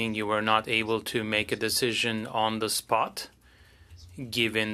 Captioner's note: speaking French